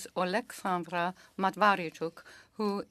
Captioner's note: speaking French